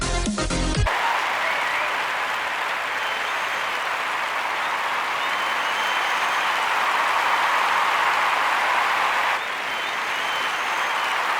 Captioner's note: applause